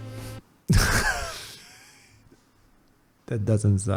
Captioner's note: laughs